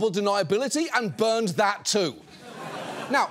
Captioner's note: audience laughs